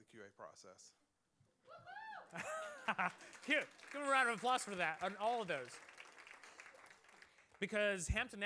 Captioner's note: applause